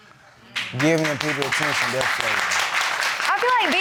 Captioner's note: crowd clapping